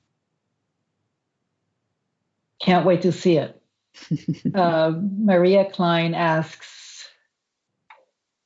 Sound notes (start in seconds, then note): 4.0 laughs